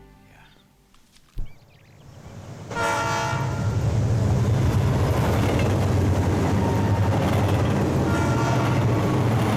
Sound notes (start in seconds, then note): 2.7 train horn honks